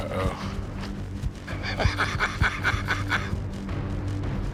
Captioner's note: laughs